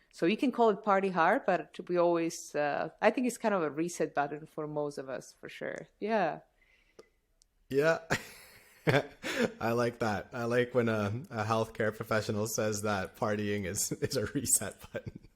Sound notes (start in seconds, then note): 8.0 laughter